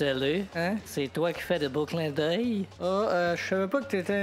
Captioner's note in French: Avec une voix masculine